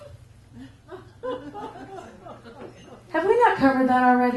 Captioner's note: giggles